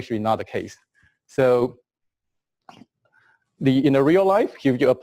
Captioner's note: pause